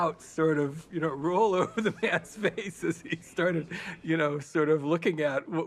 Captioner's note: laughing